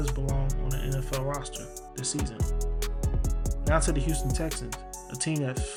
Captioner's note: voiceover